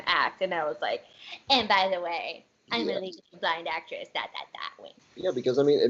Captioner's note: sassy tone